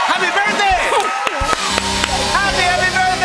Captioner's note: cheers and applause